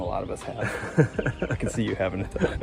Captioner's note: laughing